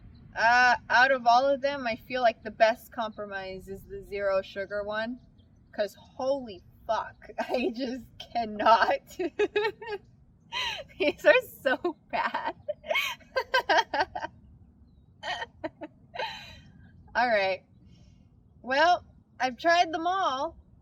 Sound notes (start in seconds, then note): 8.5 laughs; 14.9 laughs